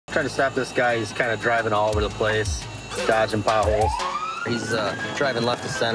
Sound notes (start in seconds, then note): 3.6 police siren